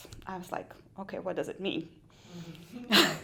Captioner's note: laughter